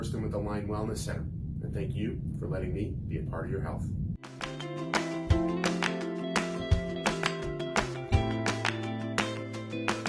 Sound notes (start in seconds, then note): 3.9 clapping; 4.2 upbeat music